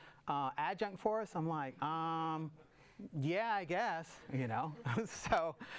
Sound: audience laughs

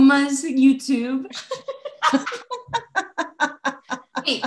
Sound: laughter

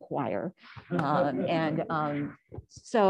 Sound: laughter

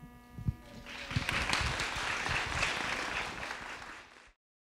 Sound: audience clapping

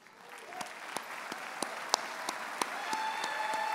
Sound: audience applauds and cheers

